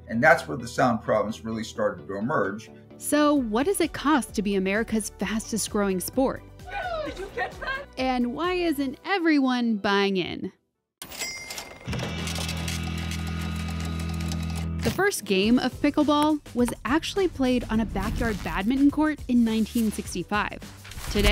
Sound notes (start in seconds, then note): 11.0 cash register rings